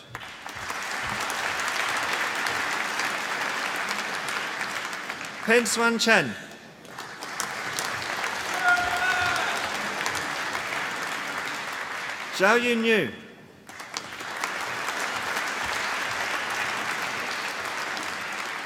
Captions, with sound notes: (APPLAUSE) Pin Hsuan Chen. (APPLAUSE) Xiaoyu Niu. (APPLAUSE)